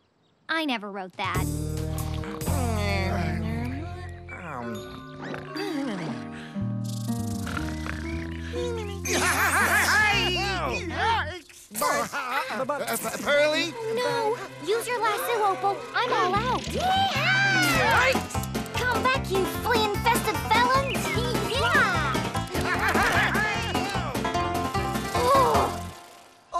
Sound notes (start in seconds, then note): 2.4 snoring; 11.8 faint zapping; 16.8 panicking